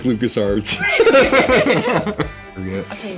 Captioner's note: both laugh